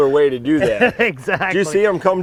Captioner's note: laughs